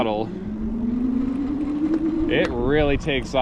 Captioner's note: electric motor whirs